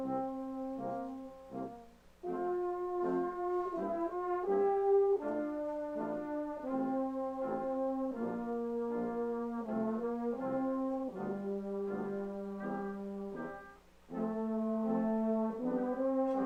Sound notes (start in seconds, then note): none